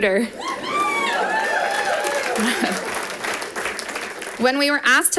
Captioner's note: audience applauding